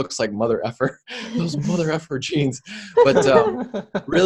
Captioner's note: laughter